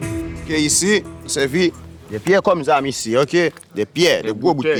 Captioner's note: French spoken audio